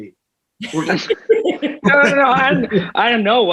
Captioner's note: they laugh